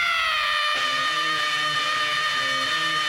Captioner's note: screaming; heavy metal music